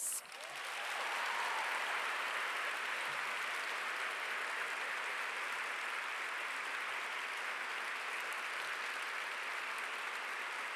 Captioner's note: applause